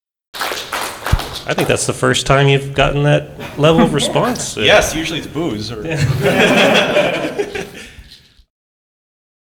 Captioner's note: applause; laughter